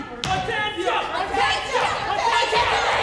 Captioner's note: men shouting